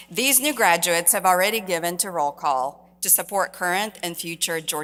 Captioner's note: none